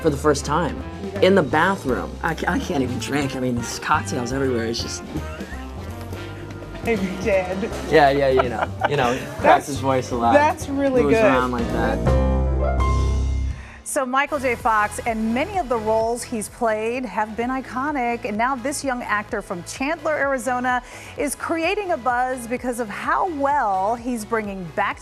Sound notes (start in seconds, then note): 5.7 laughs